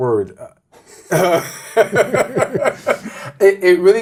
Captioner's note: laughs